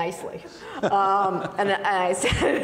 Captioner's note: laughing